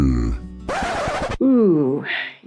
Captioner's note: record scratch